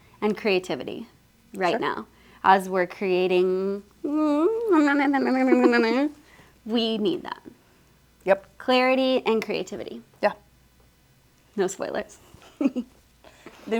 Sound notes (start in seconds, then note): 4.4 mumbling secretly; 12.4 giggles